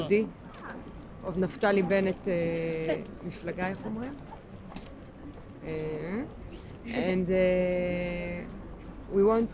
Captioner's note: speaking in foreign language